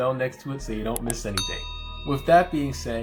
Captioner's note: bell chimes